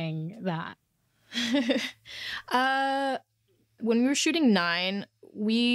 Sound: laughs

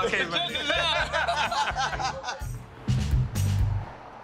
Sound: laughter

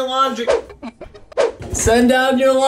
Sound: whipping sound

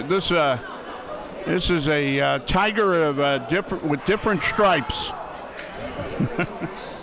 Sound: laughing

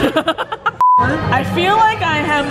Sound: laughing; beeping

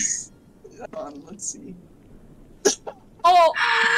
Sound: gasp

